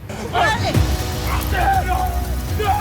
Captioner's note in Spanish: Gritos